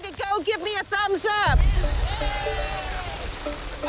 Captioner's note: all cheering